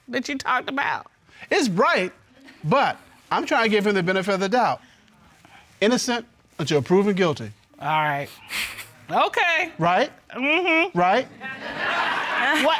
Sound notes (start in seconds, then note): 7.8 scoffs; 11.4 audience laughs